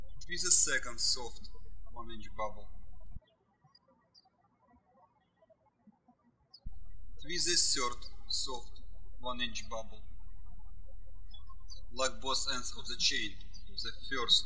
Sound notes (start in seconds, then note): 3.4 birds chirping